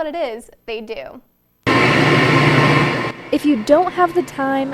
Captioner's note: mechanical whirring